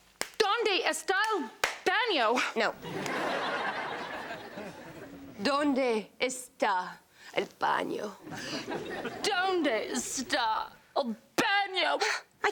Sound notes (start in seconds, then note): 1.6 claps; 2.8 audience laughs